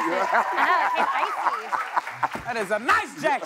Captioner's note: cheers and applause